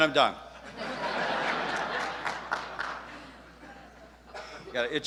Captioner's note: audience laughs